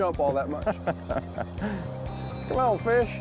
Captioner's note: laughing